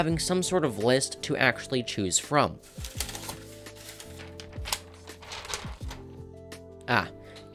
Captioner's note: rustling paper noise